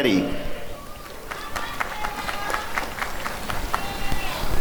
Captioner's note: applause and cheering